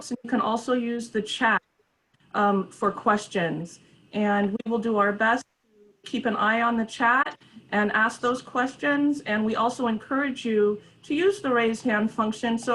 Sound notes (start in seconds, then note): none